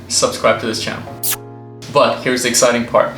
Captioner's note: kissing